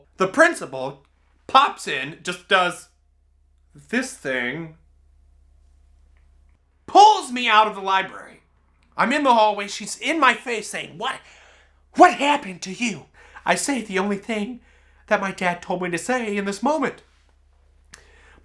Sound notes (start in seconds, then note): none